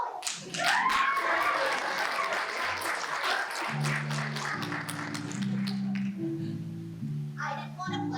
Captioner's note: applause